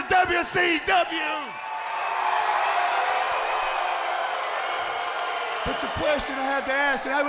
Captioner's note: crowd cheering